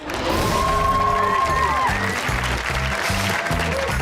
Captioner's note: audience cheers